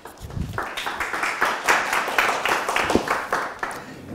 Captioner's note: applause